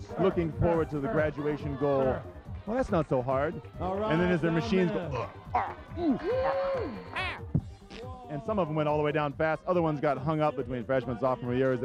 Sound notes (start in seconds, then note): 5.4 groaning